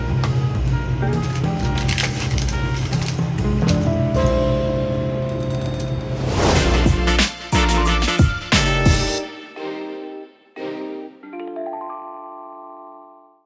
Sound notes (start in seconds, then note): 1.1 packet rustling; 5.7 upbeat music; 6.1 transition whooshing